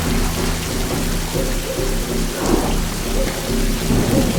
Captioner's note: thunder crashing